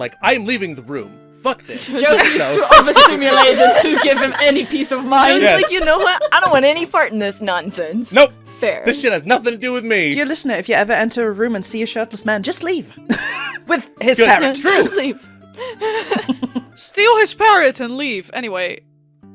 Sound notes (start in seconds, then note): 1.9 laughter; 13.1 laughter; 13.1 laughs